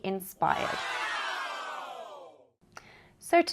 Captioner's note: cheering